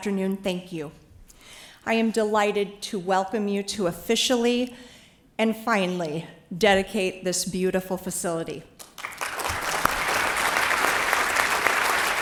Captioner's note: applause